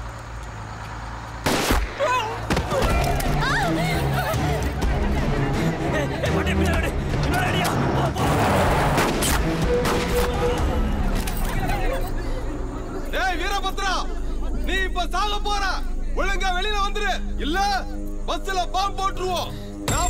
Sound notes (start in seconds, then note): 1.4 gun shots; 2.0 people screaming; 8.4 gun shot